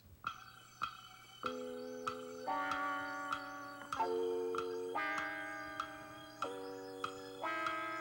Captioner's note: clock ticking